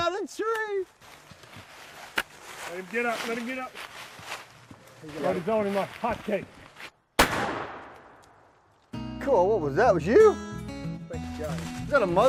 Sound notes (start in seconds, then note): 7.2 booming